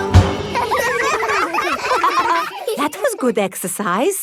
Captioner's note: all giggling